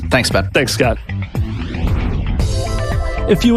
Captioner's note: electronic whooshing; bright music